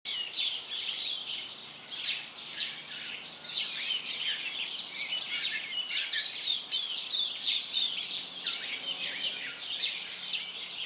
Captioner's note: birdsong